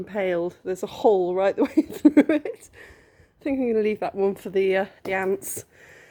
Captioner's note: laughing